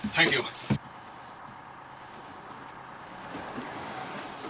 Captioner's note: engine rumbling